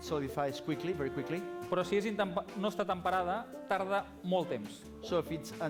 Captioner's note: non-english speech